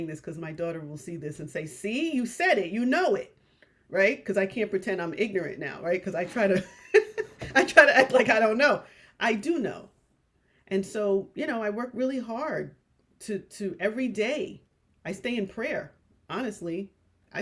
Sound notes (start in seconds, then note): 6.9 laughs